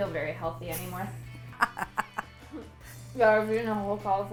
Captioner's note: laughs